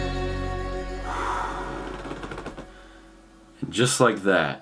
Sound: sighs

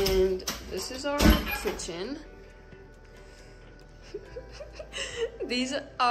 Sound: laughter

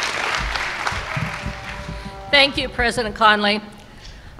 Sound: cheers and applause

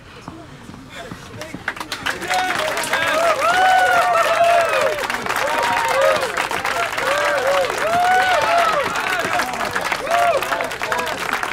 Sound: applause

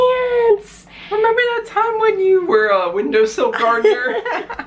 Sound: high pitch to normal pitch; laughter

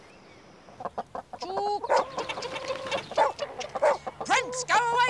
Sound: clucking; barking

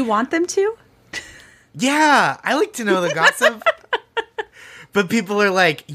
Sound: laughing

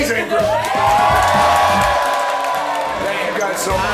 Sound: cheering

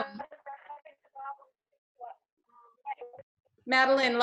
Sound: video interference drowns out sound

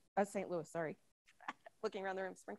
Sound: chuckles

